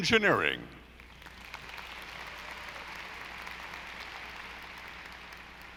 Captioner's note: audience applauding